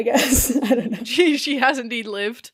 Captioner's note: laughing; laughs